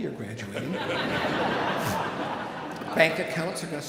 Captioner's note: audience laughing